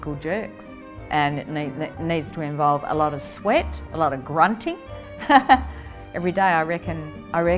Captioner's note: chuckle